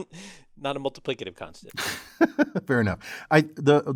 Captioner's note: laugh